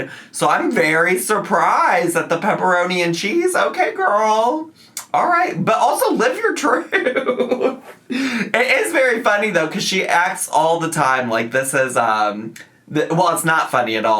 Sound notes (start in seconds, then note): 6.7 laughs